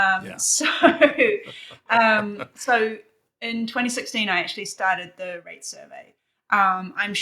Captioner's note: laughing